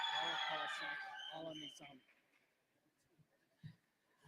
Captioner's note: applause